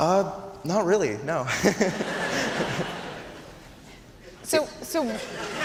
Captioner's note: laughing